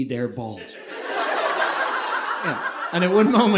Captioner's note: audience laughing